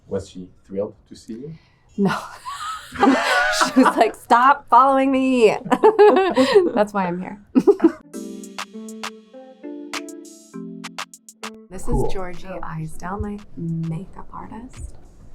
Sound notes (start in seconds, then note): 2.0 people laughing; 6.2 laughs; 8.0 upbeat hip-hop music